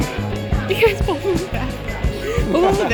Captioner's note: laughs